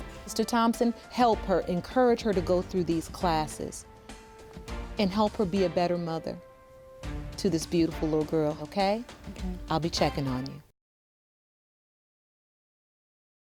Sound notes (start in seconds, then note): none